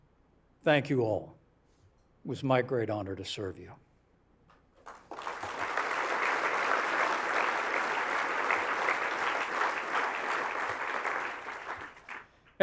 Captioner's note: applause